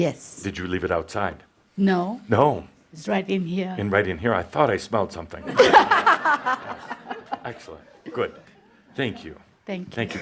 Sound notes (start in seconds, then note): 5.4 laughter